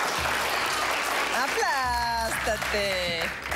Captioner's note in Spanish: Aplausos